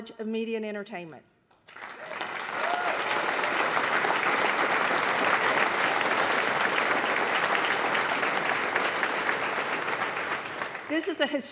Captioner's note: applause